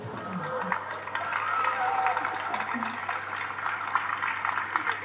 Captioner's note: applause and waving